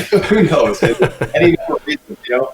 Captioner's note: laughter